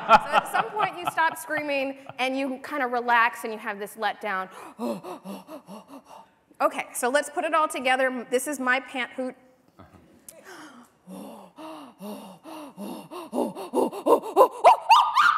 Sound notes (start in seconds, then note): 4.6 panting; 10.2 chimp noises